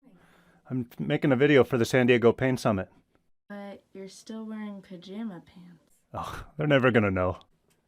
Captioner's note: chuckles